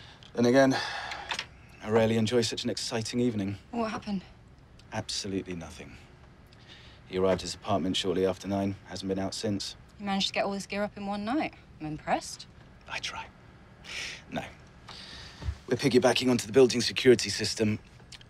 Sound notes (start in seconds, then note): none